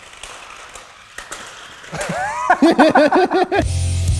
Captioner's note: laughing; intense rock music continues